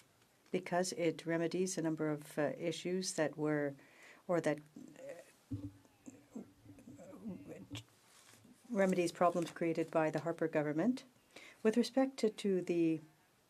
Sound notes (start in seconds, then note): 4.0 speaking French